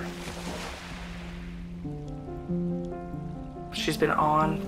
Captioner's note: waves crashing